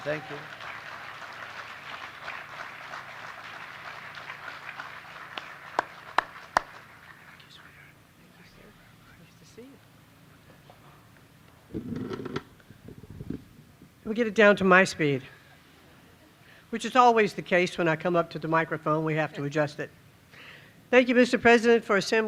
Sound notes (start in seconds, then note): 6.3 applause